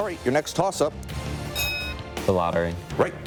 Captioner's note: bell ringing